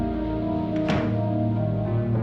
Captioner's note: door closes